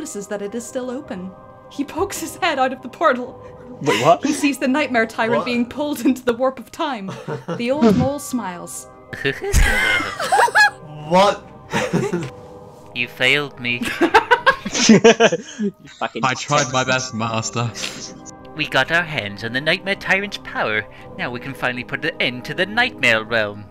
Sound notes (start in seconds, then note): 7.0 chuckles; 8.9 The Professor chuckles; 9.1 laughter; 12.9 professor voice; 13.8 laughter; 16.0 Nightmare Tyrant voice